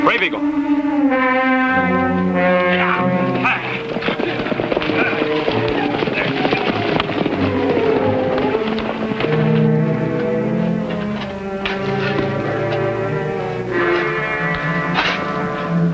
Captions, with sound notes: - Brave Eagle. (tense orchestral music) (horses cantering) (tense orchestral music)